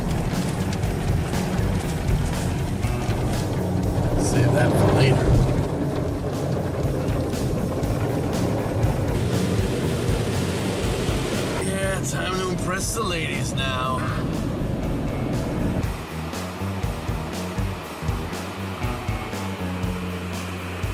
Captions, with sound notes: (machine spinning) Save that for later. (water spraying) Yeah, time to impress the ladies, now. (rock music continues)